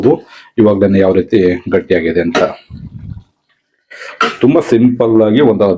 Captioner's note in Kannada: ಗಂಟಲು ಸರಿಮಾಡಿಕೊಳ್ಳುವಿಕೆ